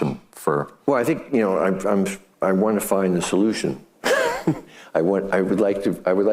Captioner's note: laughing